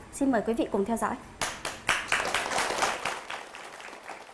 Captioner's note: applause